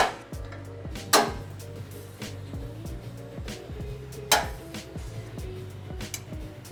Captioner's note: metal clanking